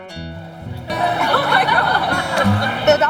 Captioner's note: laughs